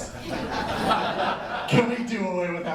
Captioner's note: laughter